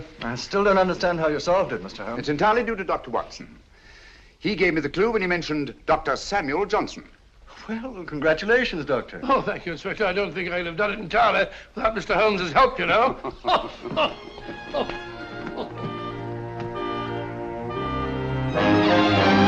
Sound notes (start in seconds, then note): 12.8 laughs; 16.3 bright music